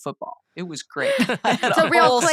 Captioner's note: laughter